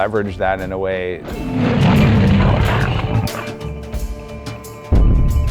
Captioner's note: T-Rex roaring